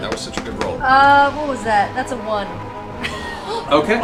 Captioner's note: laughs